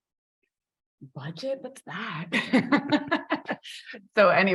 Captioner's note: chuckles